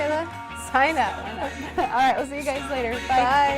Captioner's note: laughter